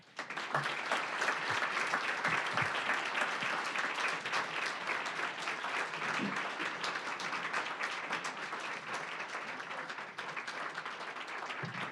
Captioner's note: applause